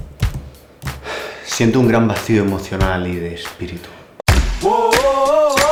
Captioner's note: sigh